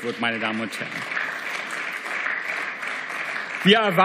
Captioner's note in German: Beifall